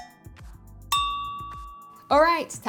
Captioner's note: timer dinging